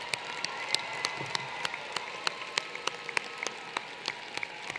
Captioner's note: applause